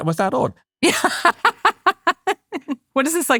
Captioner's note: laughing